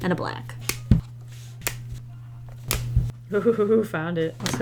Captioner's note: caps clicking off markers